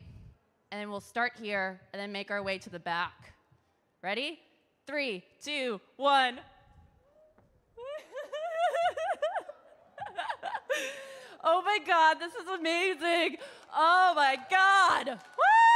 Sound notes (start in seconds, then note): 7.8 laughs